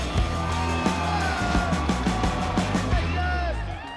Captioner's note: cheering